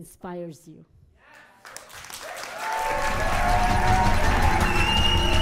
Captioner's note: audience applauding